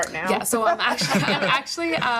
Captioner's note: laughing